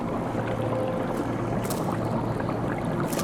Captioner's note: beads rattling